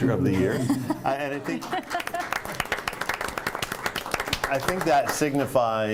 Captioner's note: laughter; applause